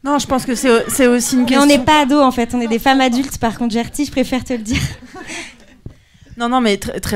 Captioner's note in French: rires